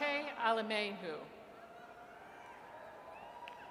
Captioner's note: audience cheers